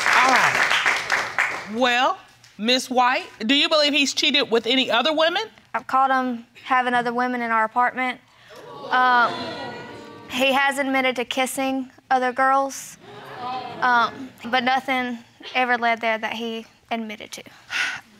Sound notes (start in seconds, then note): 8.6 audience exclaiming